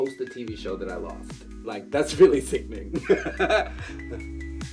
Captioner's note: laughs